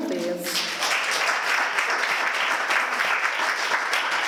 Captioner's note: applause